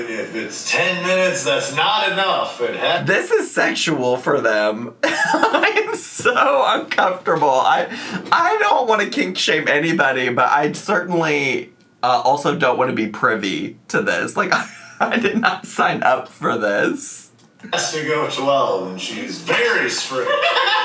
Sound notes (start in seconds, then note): 5.0 laughing